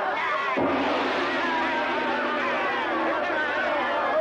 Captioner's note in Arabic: تحطم الجرس